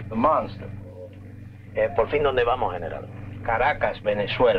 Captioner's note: Colonel Cabeza speaking in Spanish